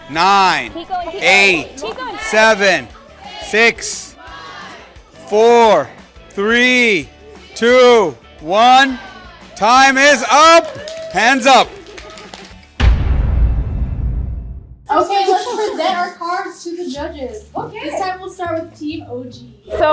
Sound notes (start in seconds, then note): 4.5 crowd; 10.2 crowd clapping